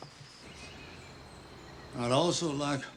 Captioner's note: birds chirping